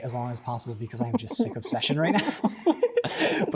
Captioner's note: laughter